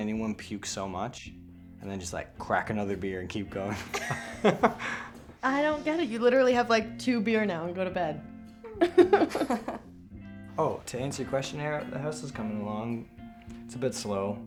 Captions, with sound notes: I mean, I've never seen anyone puke so much, and then just like crack another beer and keep going. [all laughing] I don't get it. You literally have like two beer now and go to bed. [laughing] Oh, to answer your questionnaire, the house is coming along.